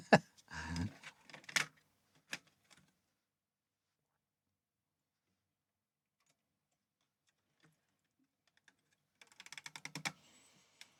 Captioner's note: laughs